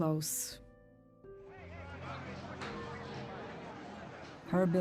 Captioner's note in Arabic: ثرثرة